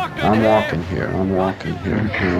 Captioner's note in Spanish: Voz en off